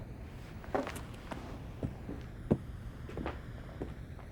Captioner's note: footsteps